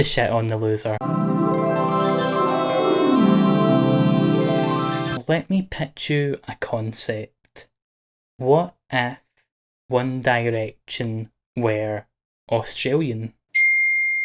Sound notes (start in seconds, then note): 13.6 message DING